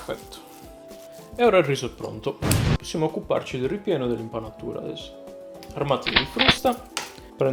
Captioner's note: explosion